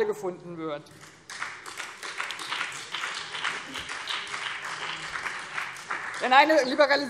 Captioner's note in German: Beifall